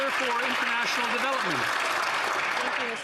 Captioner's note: some Applause